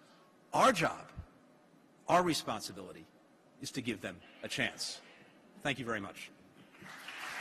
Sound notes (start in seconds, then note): 6.6 applause